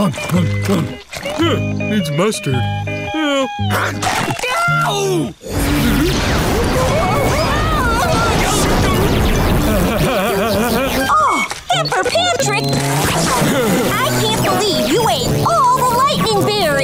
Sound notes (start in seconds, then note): 6.4 screaming; 9.4 laughing